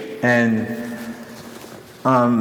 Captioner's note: none